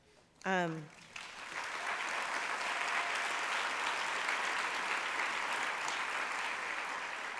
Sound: applause

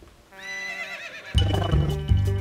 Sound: neighing

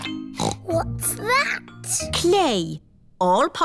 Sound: snorts

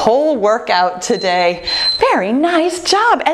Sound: timer beeping

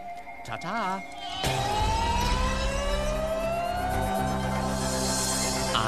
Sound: yelling

